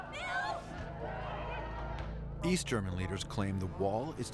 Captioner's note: shouts